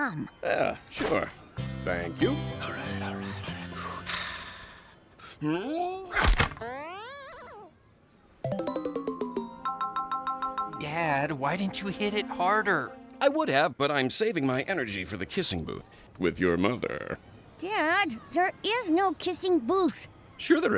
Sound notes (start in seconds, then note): 8.4 game chiming